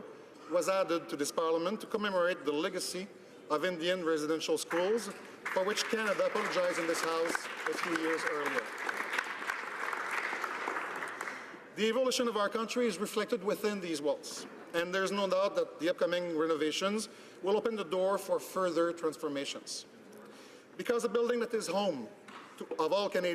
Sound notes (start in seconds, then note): 12.4 some Applause